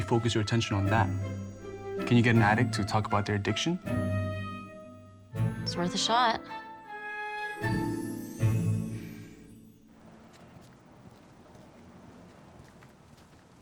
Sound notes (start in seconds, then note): 9.9 footsteps